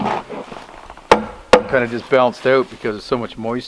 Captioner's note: hammer thudding